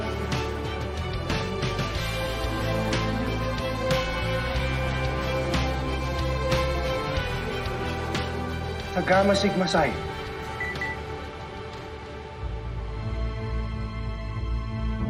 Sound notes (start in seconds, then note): 10.5 phone chimes